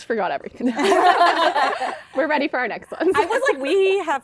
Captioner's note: laughter